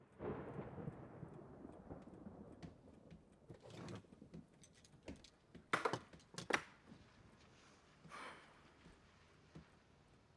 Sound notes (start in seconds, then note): 0.2 lightning booming; 5.5 gun clacking on shelf